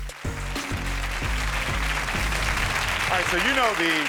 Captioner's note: audience clapping; upbeat music